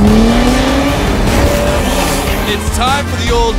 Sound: engine revving

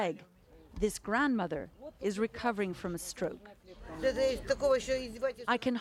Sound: speaking foreign language

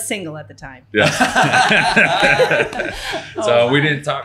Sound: everyone laughing

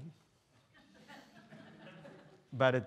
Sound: students laughing

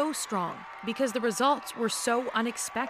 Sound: cheers and Applause

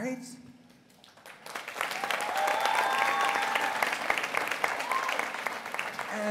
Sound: applause

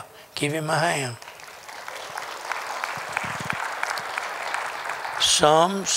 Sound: applause

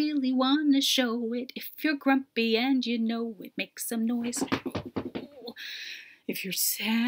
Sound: stomping feet

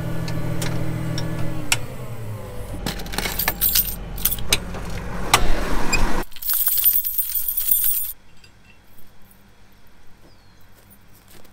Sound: tractor sound

